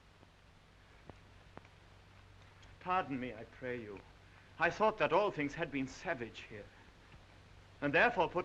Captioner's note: none